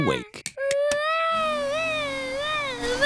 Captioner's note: vacuum cleaner whirring